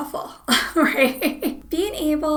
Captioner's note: laughs